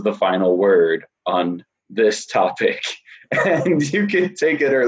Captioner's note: laughs